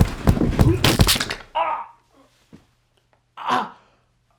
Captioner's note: body thuds; neck cracking